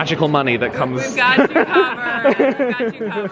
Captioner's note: laughing